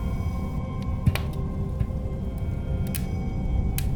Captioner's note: cackling fireplace